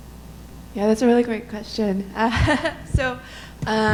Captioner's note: chuckles